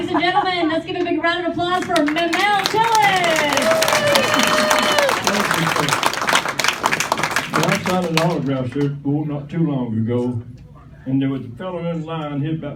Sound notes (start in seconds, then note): 3.7 applause, cheers